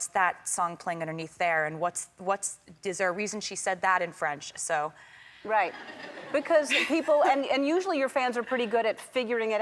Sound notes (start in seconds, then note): 5.6 crowd members laugh; 6.2 laughs